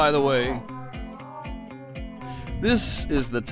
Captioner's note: speaking distortedly